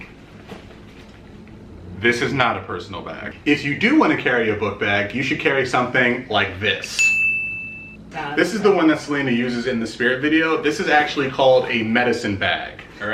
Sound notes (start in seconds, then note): 7.0 beeps; 7.7 murmurs